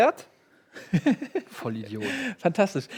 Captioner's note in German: lacht